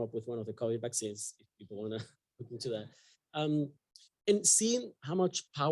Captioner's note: chuckles